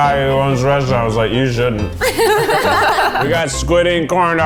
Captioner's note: laughing